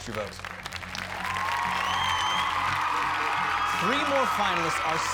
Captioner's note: cheers and applause